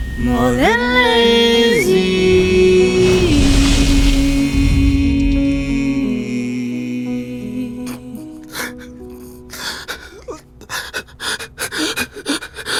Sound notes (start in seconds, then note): 8.4 sobs